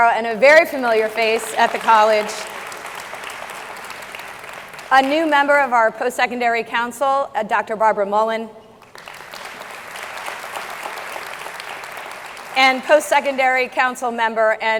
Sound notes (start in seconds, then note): 2.2 audience clapping; 8.8 audience clapping